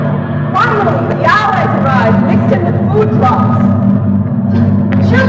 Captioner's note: low flying aircraft